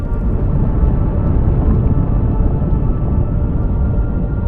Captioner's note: volcano rumbling